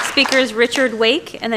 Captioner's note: applause